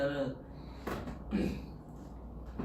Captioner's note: clears throat